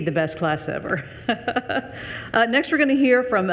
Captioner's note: chuckling